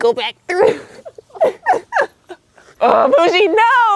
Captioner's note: laughs